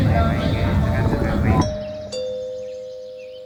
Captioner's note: someone rings at the bell